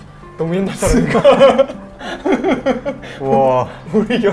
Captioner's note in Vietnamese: Cười